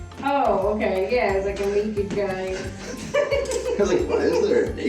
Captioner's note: amused chuckle